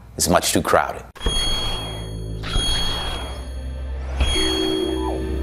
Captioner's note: logo whooshing